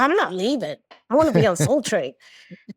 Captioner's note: laughs